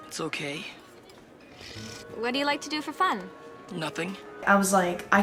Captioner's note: sips